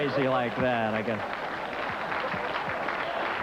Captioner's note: applause